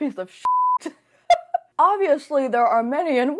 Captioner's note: laughs